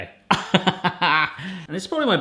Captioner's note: laughs